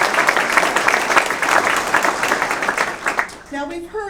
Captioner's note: applause